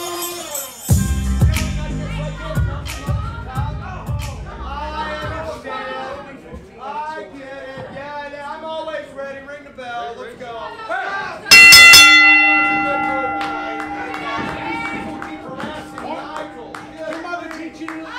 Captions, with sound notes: (spectators chattering) - I understand. I get it, yeah, yeah, I'm always ready, ring the bell, let's go. - Cut out. (bell rings) (spectators cheering and clapping)